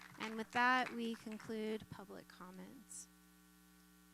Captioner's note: applause